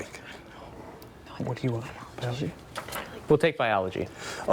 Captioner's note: team whispering